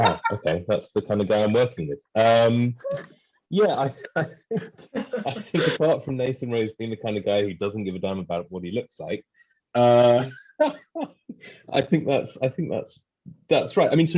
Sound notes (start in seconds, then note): 9.8 laughs